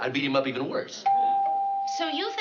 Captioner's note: doorbell chimes